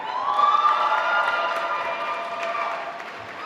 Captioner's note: applause